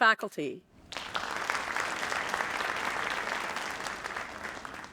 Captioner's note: audience applauding